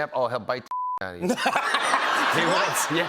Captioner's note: laughter